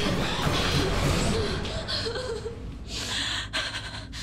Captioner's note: crying